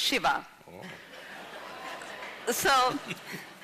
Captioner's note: laughs